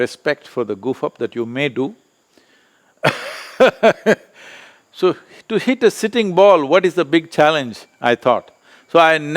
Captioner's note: laughs